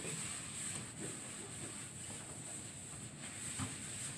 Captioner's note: wiping sounds